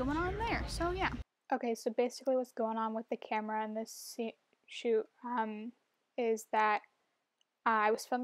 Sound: voice-over

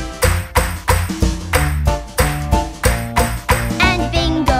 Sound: clap

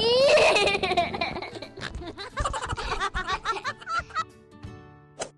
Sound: laugh

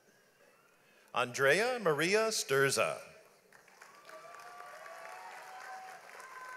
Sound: audience applauds

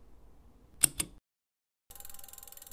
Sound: device clicks; device ticking feverishly

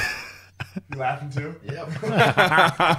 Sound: laughing

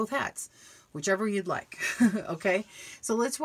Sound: chuckles

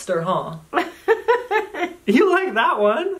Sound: laughing

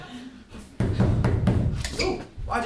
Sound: banging on door

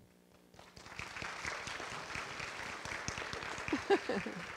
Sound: audience clapping

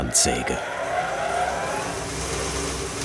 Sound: machine noise

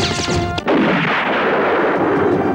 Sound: explosion

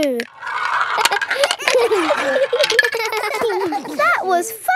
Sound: all giggling

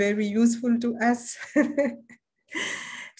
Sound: laughter

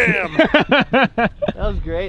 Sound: laughing

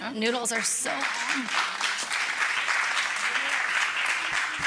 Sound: applause

